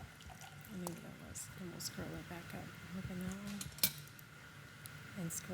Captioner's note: faintly speaking